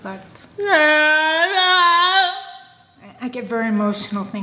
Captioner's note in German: schreit